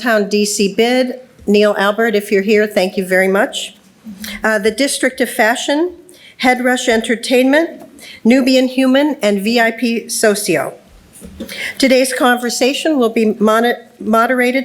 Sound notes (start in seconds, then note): none